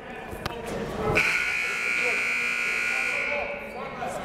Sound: buzzer

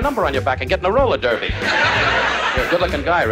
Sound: laughing

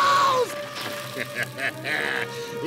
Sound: screaming; laughing

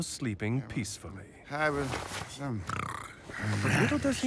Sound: mumbles and snores

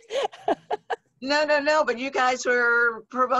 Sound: laughs

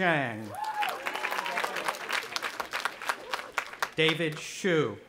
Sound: audience applauding and cheering

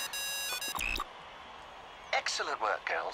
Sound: phone ringing

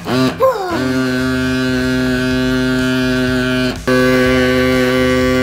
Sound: motor rumbles loudly

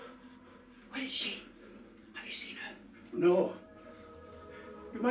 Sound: none

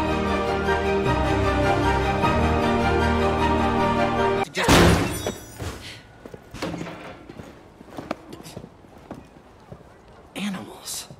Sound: crash

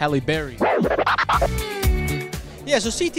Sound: record scratch

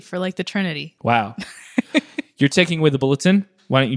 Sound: laughs

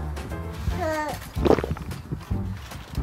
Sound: gulps

